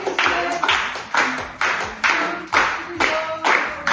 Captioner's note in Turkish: alkış